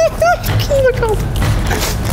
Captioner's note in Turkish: gülerek